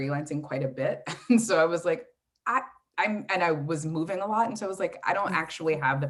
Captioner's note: chuckles